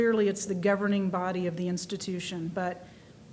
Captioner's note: none